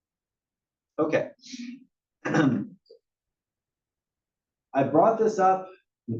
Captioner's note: cough